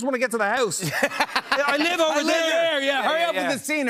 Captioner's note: laughter